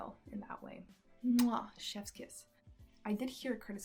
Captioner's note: mwah